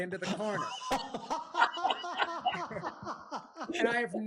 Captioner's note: laughter